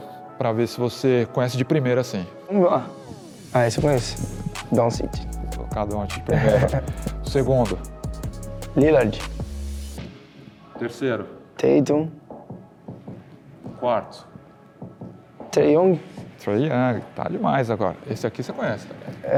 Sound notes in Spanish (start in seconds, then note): 6.3 Risas